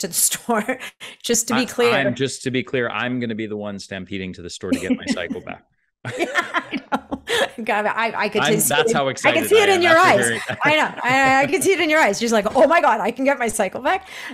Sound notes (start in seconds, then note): 0.6 chuckles; 4.7 chuckling